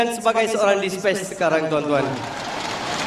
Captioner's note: crowd cheering